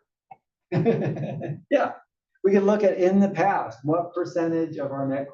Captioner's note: laugh